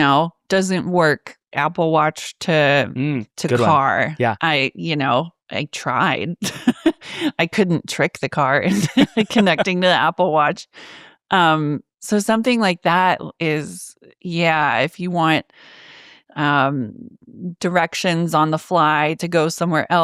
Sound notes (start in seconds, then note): 6.6 laughing